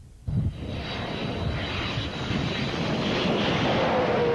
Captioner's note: jet engine roaring